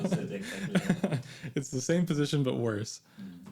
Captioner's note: both laughing